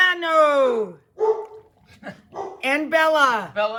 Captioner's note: dog barks